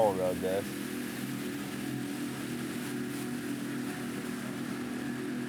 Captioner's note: boat engine whirring